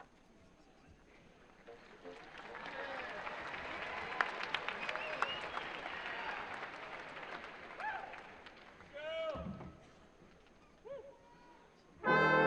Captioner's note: applause